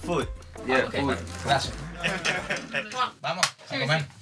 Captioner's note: laughter